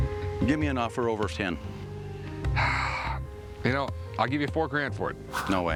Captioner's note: sighs